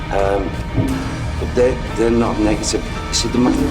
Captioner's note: speaks softly